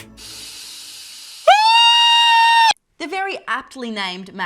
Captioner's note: screams